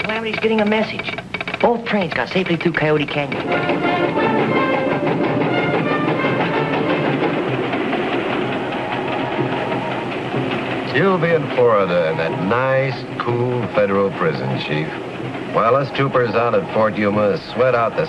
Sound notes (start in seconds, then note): 3.9 bright orchestral music; 3.9 train engine rattling